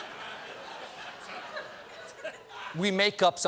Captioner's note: laughter